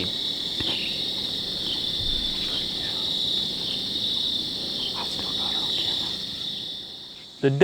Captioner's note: whispering